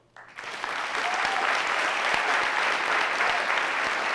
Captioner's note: audience applauding